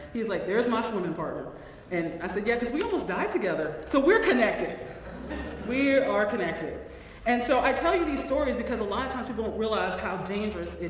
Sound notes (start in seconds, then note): 5.0 laugh